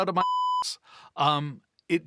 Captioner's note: beep